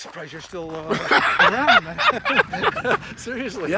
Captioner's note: both laughing